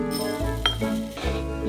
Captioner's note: oats pouring